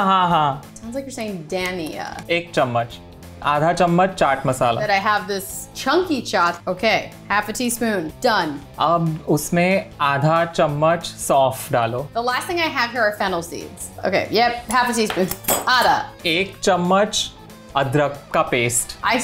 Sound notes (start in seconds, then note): 0.1 speaking in Hindi; 2.3 speaking in Hindi; 8.8 speaking in Hindi; 16.2 speaking in Hindi